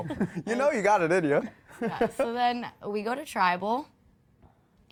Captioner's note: laughter